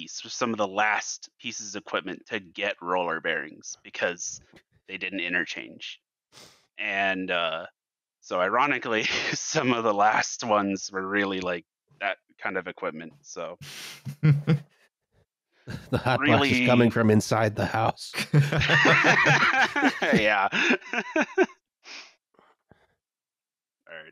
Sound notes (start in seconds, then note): 15.7 chuckles; 18.1 laughter